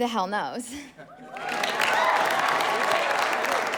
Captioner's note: all cheering